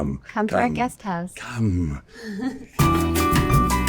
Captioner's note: laughs; upbeat jazzy music